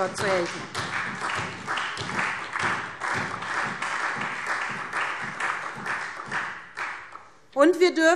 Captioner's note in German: Beifall SPD